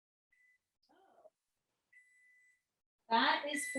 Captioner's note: beeping